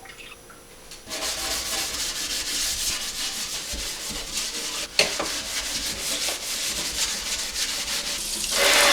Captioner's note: scrubbing; water splashing